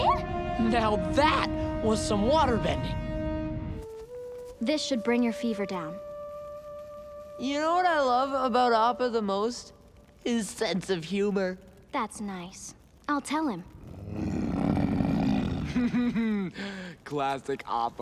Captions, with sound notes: Now, that was some waterbending. This should bring your fever down. You know what I love about Appa the most? His sense of humor. That's nice. I'll tell him. [grunting] [giggling] Classic Appa.